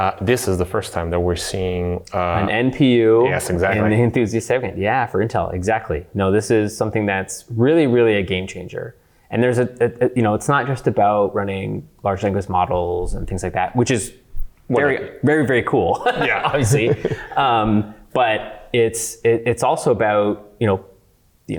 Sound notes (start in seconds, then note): 16.0 laughing